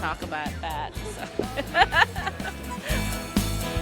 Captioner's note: laughter